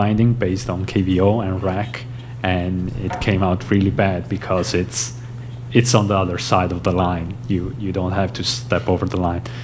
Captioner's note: none